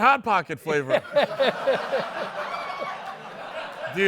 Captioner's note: laughter